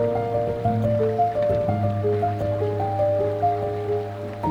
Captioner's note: water stream flowing